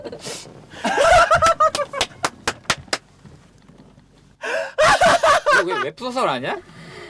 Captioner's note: laughter